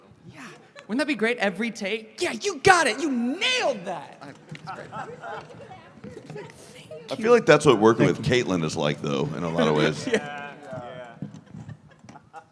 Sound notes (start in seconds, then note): 4.6 laughter; 9.2 cast agreement sounds